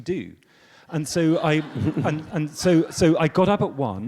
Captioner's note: audience laughs